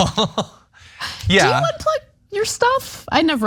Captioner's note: laugh